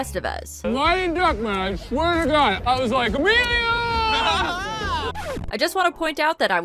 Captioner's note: record scratch